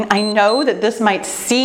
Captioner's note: timer beeps